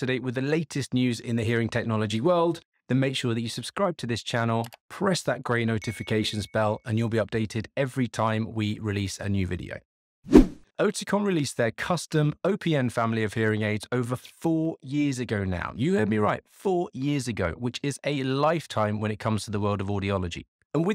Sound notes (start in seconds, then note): 4.5 mouse clicks; 5.8 bell chimes; 10.3 air whooshes